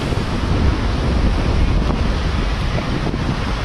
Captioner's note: rain and thunder